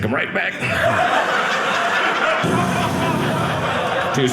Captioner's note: audience laughing